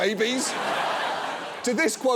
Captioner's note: audience laughs